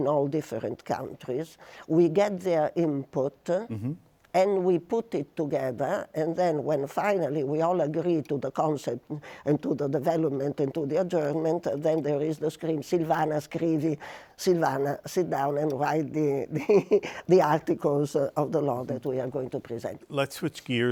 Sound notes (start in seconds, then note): 16.6 chuckles